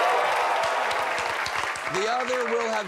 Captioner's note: cheering